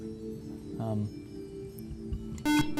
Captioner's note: buzzer